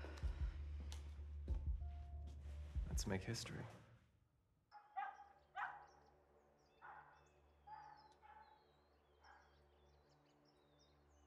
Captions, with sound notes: - Let's make history. (birds chirping) (dog barking)